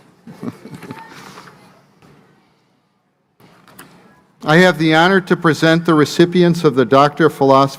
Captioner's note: laughter